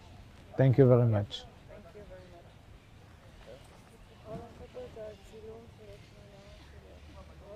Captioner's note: hebrew